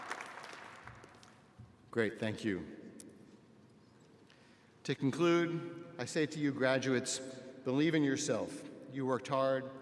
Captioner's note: applause